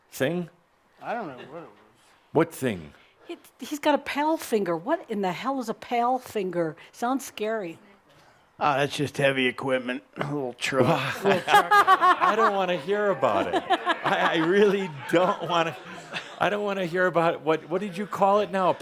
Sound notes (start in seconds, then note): 10.8 laughter